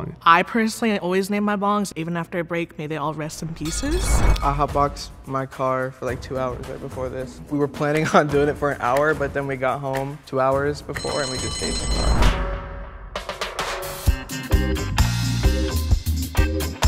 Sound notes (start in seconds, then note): 10.9 buzzer chimes; 13.2 upbeat music